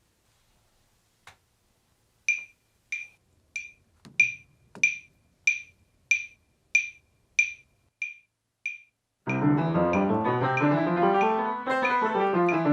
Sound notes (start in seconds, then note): 4.4 metronome clicks; 9.2 piano scales; 12.5 piano scales stop, metronome clicks